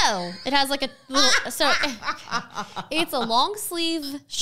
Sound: laughs

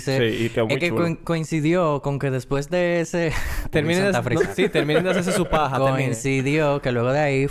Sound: laughs

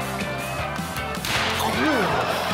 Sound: pop

